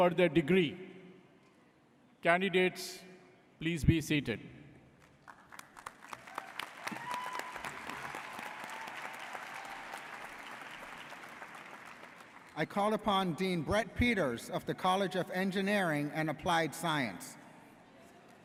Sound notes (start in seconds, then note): 5.1 audience applauds